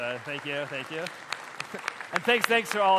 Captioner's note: applause